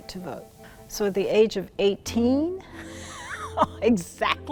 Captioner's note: laughs